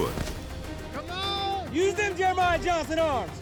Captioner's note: cowboys shout encouragement